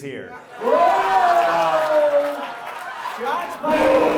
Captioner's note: audience laughs